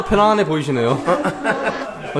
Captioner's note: laughs